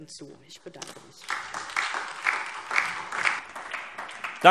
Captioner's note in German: Beifall DIE LINKE und SPD